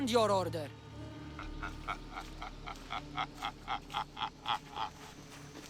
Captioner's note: laughing